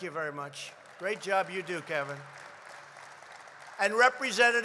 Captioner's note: applause